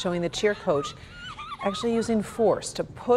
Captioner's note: crying